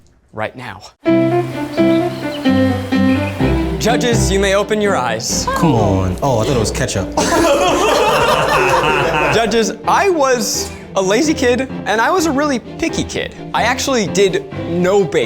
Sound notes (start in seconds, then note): 2.7 classical music; 8.8 laughs